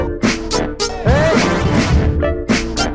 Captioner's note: none